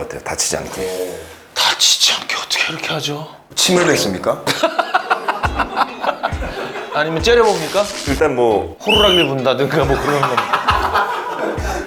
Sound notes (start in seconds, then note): 4.4 ha ha ha ha ha